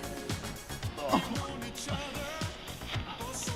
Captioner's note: Alex groans